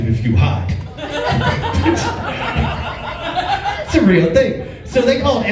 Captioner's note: laughs